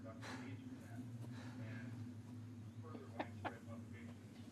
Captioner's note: laughing